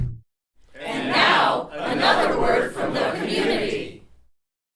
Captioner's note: crowd